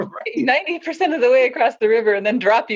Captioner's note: laughs